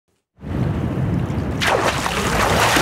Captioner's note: water splash